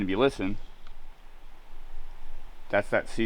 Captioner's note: water whirring